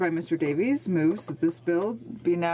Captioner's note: speaking French